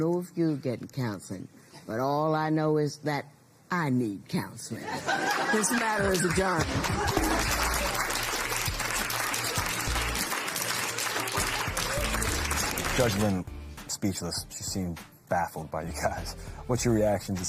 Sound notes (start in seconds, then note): 6.9 laughter, applause